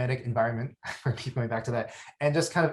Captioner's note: chuckles